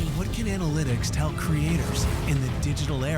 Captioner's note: voiceover